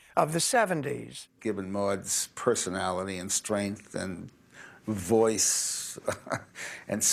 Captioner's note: laughs